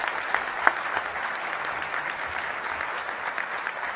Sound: applause

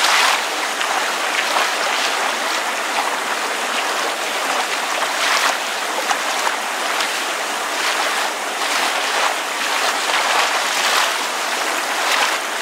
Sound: rain continues to fall gently

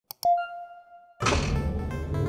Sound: logo beeps; machinery whirring

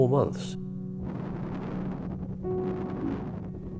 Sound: distortion

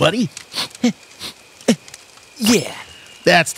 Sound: mild sobbing

